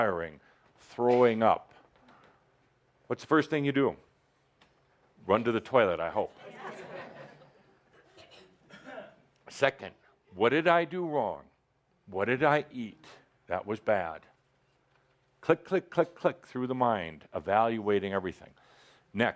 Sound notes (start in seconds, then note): 6.4 some laughter